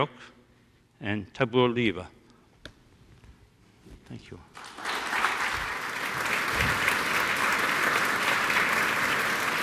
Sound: applause

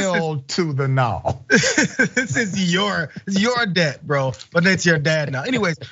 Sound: laugh

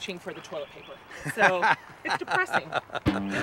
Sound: laughing; electric guitar music

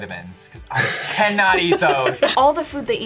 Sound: laughs

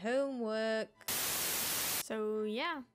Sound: static

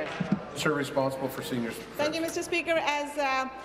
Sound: applause

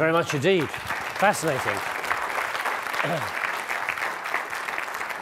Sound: audience clapping

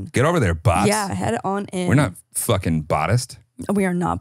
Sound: laughs

